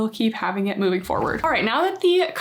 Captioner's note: graphic whooshing